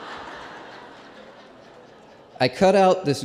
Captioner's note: laughter